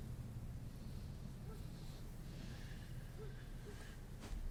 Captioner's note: breathes